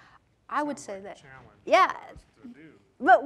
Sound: speaking off mic

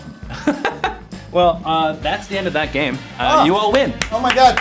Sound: laughs

